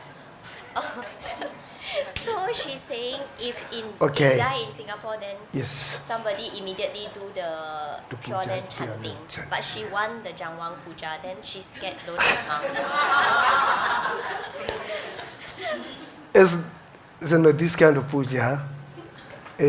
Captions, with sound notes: So she's saying if in die in Singapore, then somebody immediately do the-- (speaking in foreign language) chanting. But she want the (speaking in foreign language) puja, then she scared don't come. (audience laughs) - This kind of puja